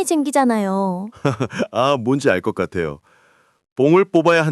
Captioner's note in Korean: 웃음